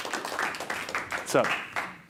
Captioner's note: audience applauding